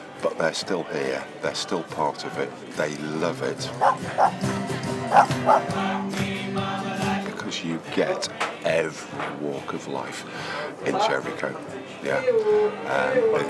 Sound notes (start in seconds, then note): 5.1 dog bark